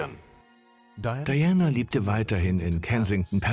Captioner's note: voiceover